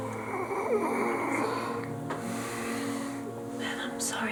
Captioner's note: Ben groaning